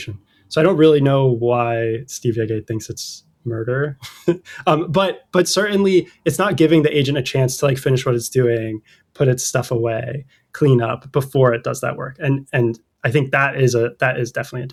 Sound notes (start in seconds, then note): 4.0 laughter